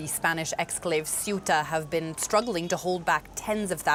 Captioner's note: sound of siren